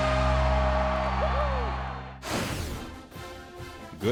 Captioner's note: cheering